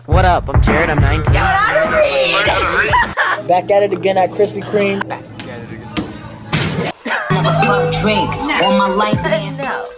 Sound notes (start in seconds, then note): 1.7 laughs